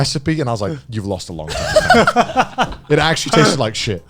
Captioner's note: men laugh